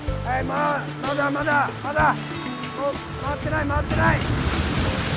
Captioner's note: guide shouting in Japanese